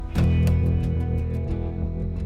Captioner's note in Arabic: يفتح باب السيارة